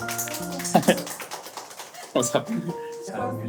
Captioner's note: laughing